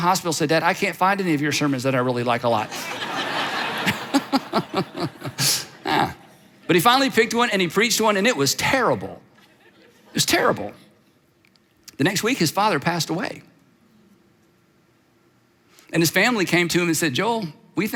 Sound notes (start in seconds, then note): 2.6 audience laughs